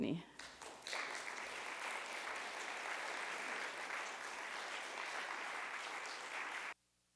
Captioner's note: audience applauds